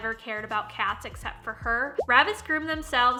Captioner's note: popping